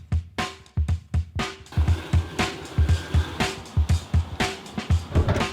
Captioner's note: machinery rumbling; plane engine whirring